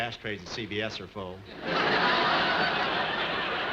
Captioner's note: audience laughing